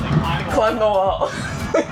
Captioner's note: laughs